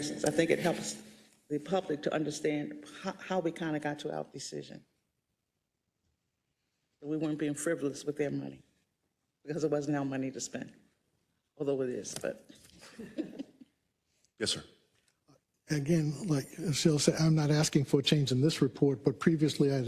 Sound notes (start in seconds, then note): 12.8 laugh